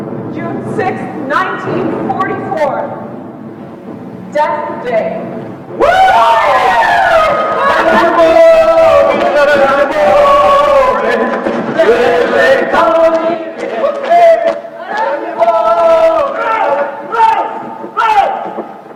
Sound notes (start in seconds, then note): 0.0 distant explosions; 6.0 voices offstage